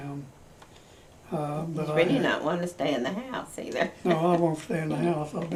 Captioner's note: laughs